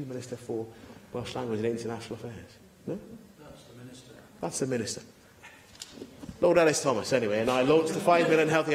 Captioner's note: laughter